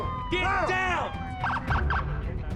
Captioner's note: police sirens wailing